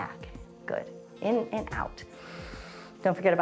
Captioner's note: inhales